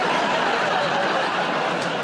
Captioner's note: laughter